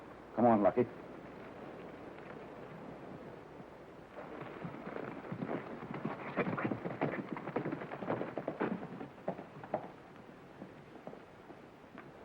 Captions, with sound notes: Come on, Lucky. (hooves beating)